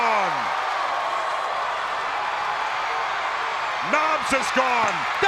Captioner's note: crowd cheering